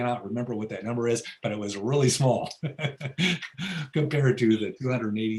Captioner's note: laughs